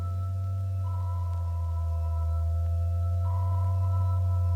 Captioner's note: robot beeping